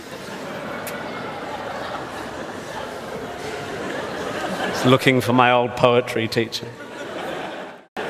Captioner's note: audience laughs